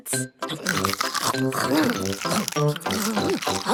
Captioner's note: crunch